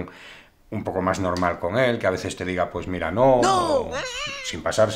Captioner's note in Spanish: Voz en off